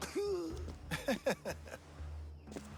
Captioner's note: laughs